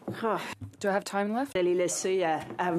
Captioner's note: speaking French